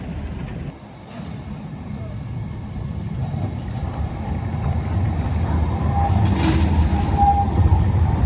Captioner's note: suburban trains